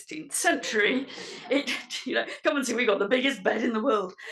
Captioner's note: laugh